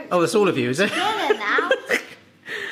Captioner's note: laughing